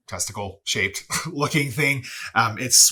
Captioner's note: laughs